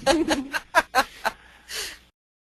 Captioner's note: laughs